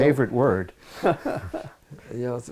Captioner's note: laughs